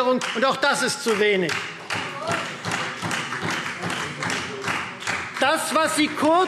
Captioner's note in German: Beifall Freie Demokraten